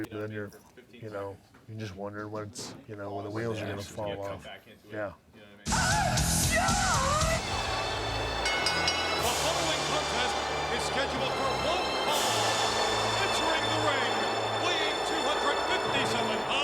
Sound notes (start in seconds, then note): 8.1 audience booing; 8.9 bell rings